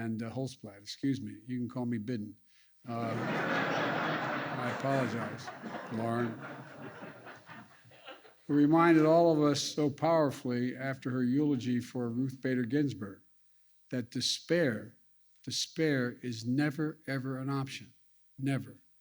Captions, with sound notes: Holtzblatt -- excuse me -- you can call me "Bidden" -- (laughter) -- I apologize, Lauren -- who reminded all of us so powerfully after her eulogy for Ruth Bader Ginsburg that despair -- despair is never, ever an option. Never.